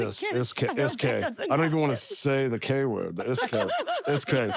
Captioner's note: laugh